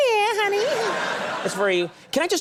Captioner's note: audience laughing